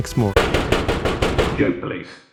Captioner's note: knocking on the door